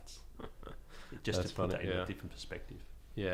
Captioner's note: laughing